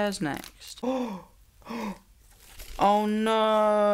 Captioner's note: gasps